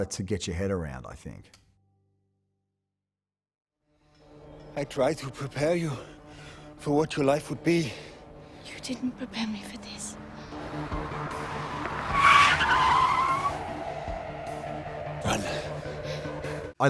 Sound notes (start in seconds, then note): 10.7 dramatic instrumental music; 12.2 car screeching